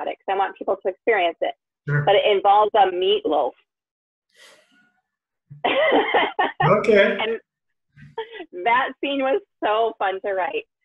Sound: laughter

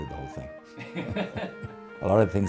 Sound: cameraman laughs

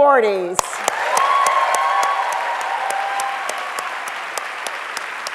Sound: audience cheering and clapping

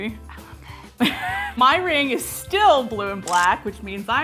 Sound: laughs

